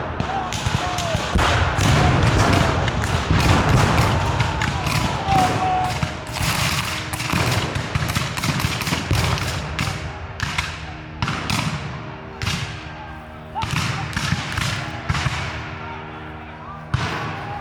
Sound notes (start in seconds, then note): 0.7 guns fire; 6.1 guns fire; 11.5 guns fire